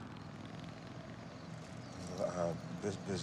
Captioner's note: motorcycle engine buzzing